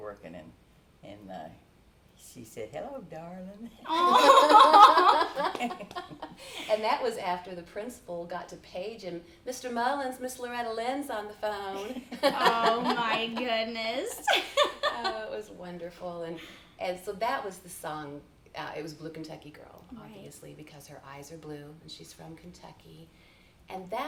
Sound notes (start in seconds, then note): 3.8 laughing; 14.7 chuckles